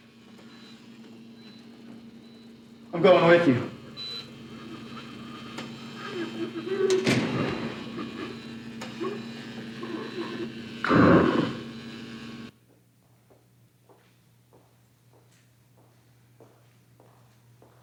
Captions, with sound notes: - I'm going with you. (Donal growls)